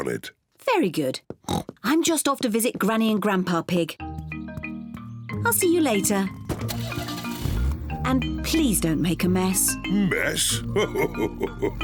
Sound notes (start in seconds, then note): 1.4 oinks; 6.3 car engine revs; 10.6 laughs